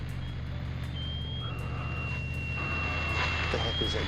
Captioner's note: alarm